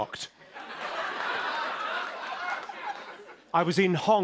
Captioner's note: laughter